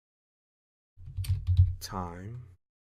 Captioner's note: typing